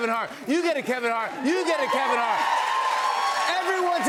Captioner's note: cheers and applause